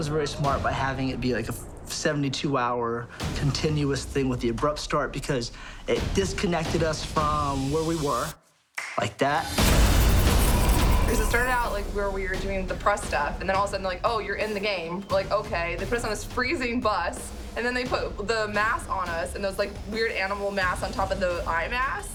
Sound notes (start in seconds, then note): 8.4 snaps